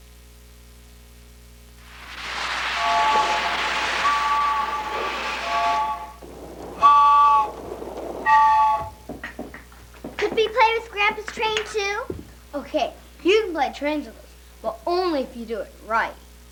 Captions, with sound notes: (whistle blowing) Could we play with Grandpa's train too? ok You can can play trains with us. But only if you do it RIGHT.